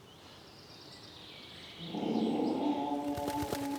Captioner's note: wailing